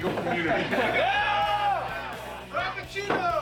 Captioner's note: men shouting